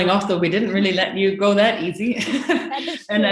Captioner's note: laughs